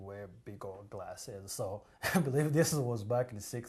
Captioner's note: laughs